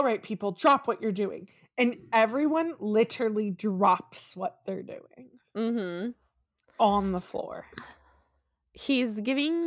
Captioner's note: mhmm